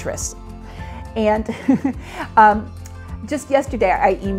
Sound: laughing

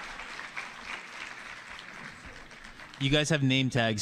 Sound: applause

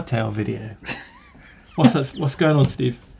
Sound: laughs

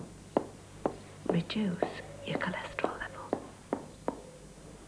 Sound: whispering

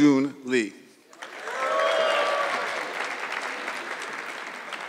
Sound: audience clapping

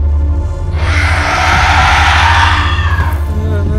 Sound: screech

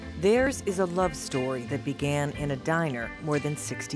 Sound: voiceover

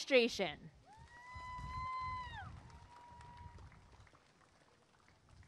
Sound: applause and cheering

